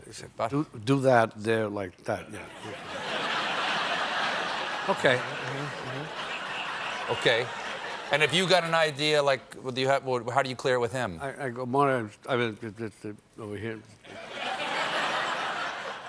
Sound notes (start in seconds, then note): 6.2 laughter